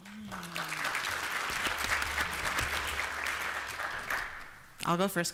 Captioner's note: applause